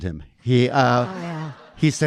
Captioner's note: audience laughing